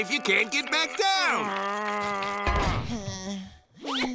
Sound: grunting

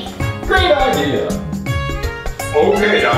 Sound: voiceover

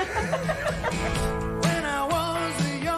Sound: laughter

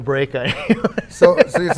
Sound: laughs

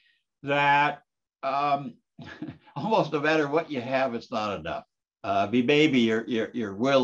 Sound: laugh

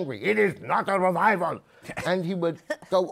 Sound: laughter

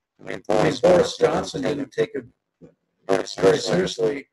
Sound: microphone feedback

